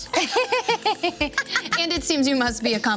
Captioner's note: laugh